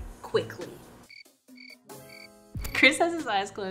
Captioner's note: gentle upbeat music; crickets chirping